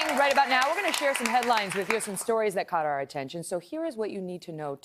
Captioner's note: cheers and applause